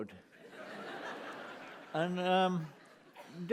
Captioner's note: laughter